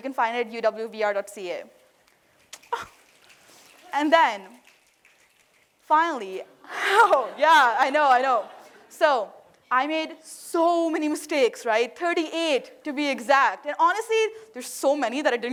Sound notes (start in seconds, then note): 3.3 applause